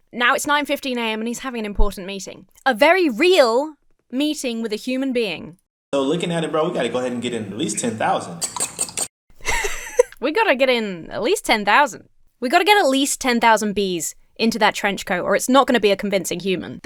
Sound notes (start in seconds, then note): 8.4 fork scrapes against pan; 9.4 laughs